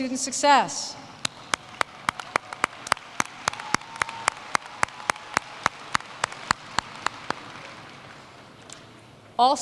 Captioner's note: applause